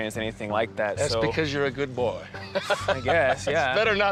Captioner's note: laughs